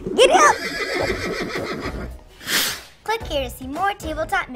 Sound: neighing

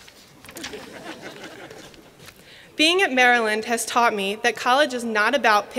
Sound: laughter

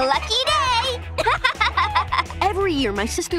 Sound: laughing

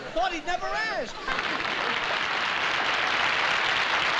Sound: applause

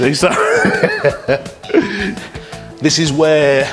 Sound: laughing

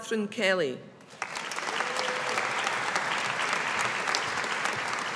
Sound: audience applauding

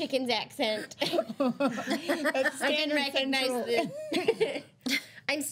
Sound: girls laughing

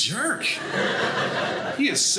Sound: audience laughing

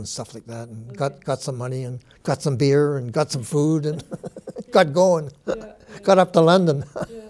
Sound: chuckles

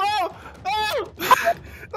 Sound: yell falling

